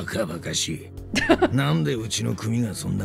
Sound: chuckles

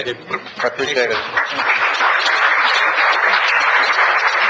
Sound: applause

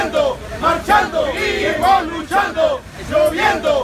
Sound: protest chants

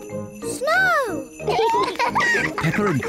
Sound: both giggle

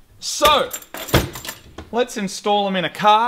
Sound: metal clicks; thud

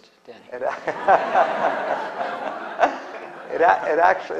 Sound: laughter

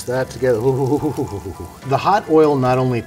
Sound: Andrew chuckles

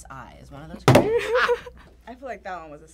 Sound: laughs

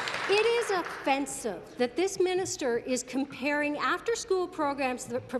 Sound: applause

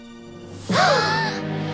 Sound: gasping

